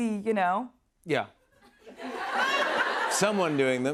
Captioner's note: laughter